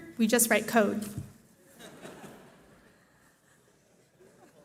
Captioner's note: laughter